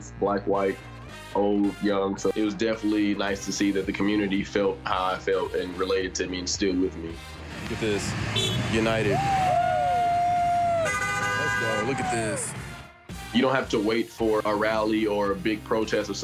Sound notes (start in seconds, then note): 10.4 car horns honking